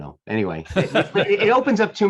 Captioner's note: laughing